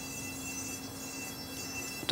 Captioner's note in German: Leise Bohrgeräusche